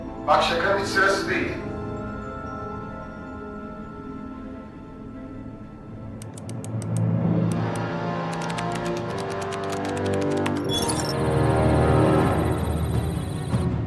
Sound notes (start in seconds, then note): 6.2 mouse and keyboard sounds